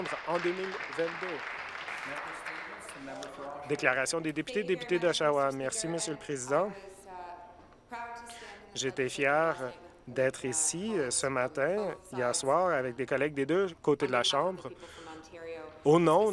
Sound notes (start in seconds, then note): 0.0 applause